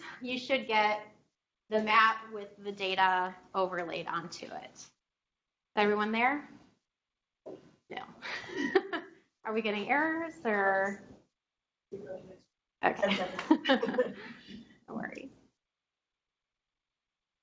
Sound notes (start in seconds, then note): 8.3 chuckles; 13.0 chuckles